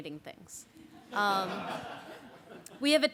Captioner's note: laughter